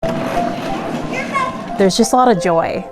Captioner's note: toy car circling